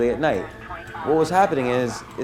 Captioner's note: police siren and radio